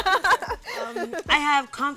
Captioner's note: laughter